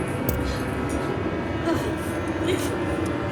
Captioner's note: foot thudding; Dorothy grunting